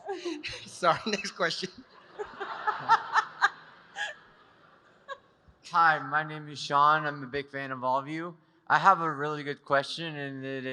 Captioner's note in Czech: smích